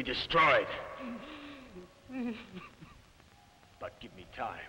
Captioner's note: Bruno crying